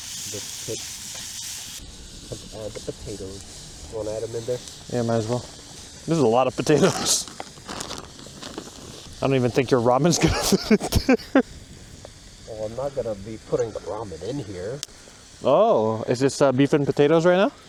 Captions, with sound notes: "The pit" "Let's add the potatoes" "Wanna add them in there?" "Yeah, might as well" "This is a lot of potatoes" *laughs* "I don't even think your ramen's *chuckles* gonna fit in there" "Well, I'm not gonna be putting the ramen in here" "Oh is this uh beef and potatoes right now?"